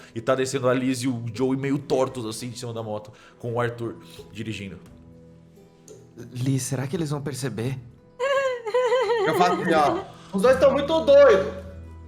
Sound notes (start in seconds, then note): 8.2 laughing